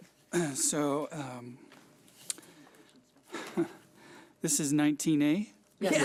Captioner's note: chuckling; laughing